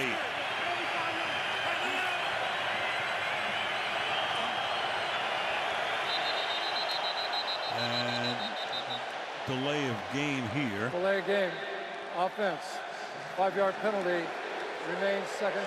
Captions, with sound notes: Second down and 8. [whistle blows] And delay of game here. Delay of game, offense, 5 yard penalty.